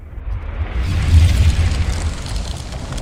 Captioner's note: fire whoosh